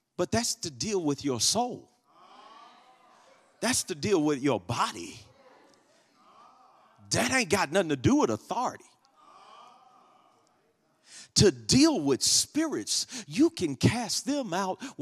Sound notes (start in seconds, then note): 9.3 congregation murmurs